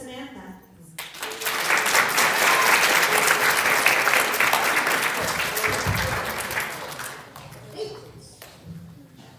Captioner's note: applause